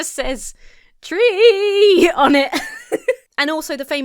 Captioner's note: laughs